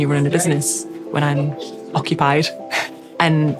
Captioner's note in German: lacht